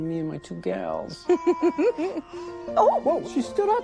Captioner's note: laughs; Goldie babbling